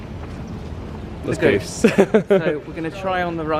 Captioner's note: laughs